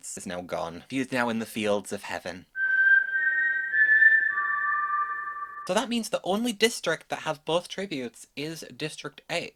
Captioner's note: whistles